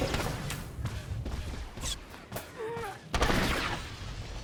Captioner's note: gun firing